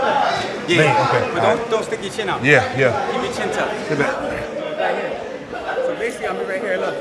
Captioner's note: rhythmic music; gloves banging